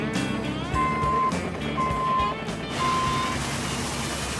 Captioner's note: truck beeping; water spraying